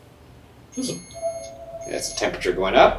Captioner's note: REM-pod beeps; REM-pod beeping